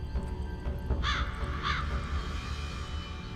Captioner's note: crow cawing